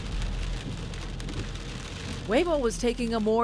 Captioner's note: rain falling